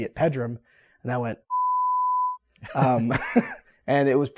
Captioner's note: beep